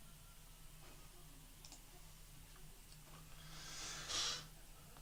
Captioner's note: mouse clicking